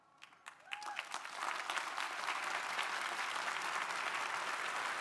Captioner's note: crowd applauding